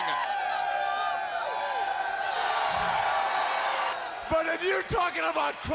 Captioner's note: crowd cheering